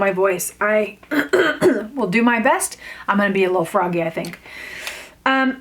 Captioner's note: clears throat